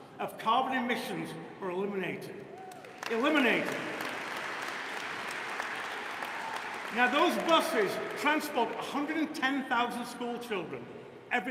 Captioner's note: applause